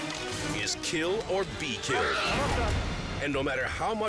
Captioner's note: screams